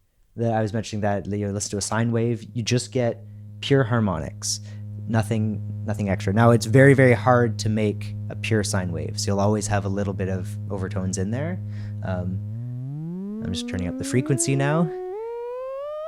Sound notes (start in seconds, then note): 13.4 tone becomes higher-pitched